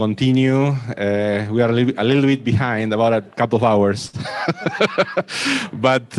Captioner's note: laughs